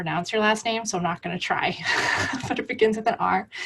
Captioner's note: laughing